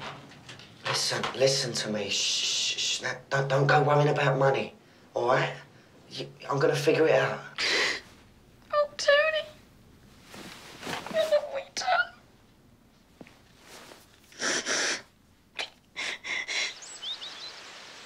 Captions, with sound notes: Listen, listen to me. [shushing] Don't go worrying about money, all right? I'm going to figure it out. [sobbing] Oh, Tony, what have we done? [sniffling] [birds tweeting]